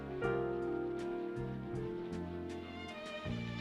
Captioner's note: none